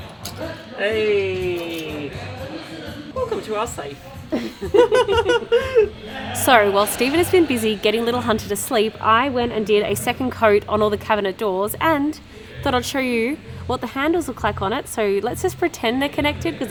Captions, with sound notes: - Hey, welcome to our safe. (both laughing) - So, while Stephen has been busy getting little Hunter to sleep, I went and did a second coat on all the cabinet doors and thought I'd show you what the handles look like on it, so let's just pretend they're connected